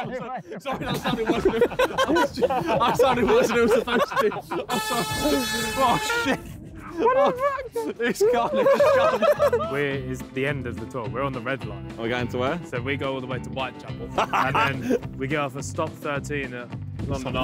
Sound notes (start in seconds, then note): 0.0 all laughing; 4.6 car horn honks